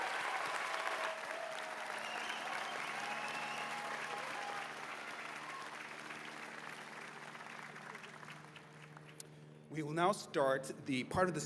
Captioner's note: cheers and applause